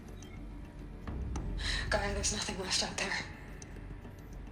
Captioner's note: sigh